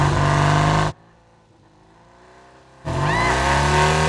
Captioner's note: motor revving